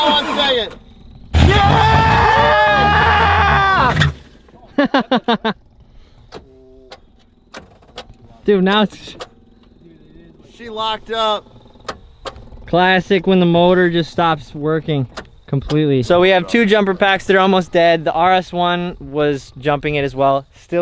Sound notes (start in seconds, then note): 1.4 cheering